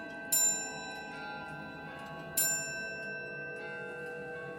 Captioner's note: clock chiming